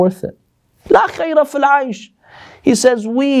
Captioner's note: Arabic